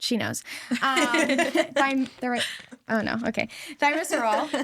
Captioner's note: hosts laugh